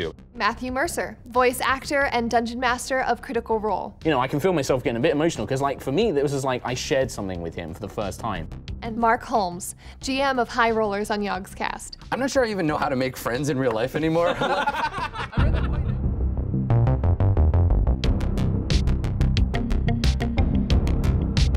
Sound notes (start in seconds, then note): 13.9 group laughing; 18.0 dramatic music